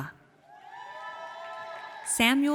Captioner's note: audience cheers